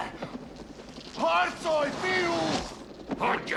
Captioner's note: groaning